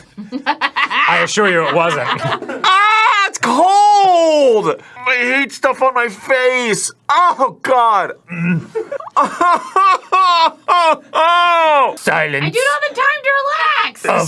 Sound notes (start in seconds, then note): 8.2 grunts from deep within; 8.3 sobbing